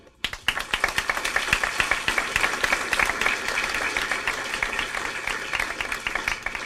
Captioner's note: clapping